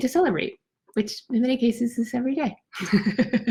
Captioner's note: laughs